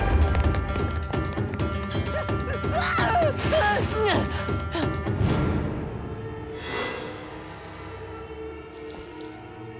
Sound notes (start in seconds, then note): 2.6 screaming